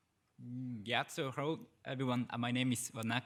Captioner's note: speaks foreign language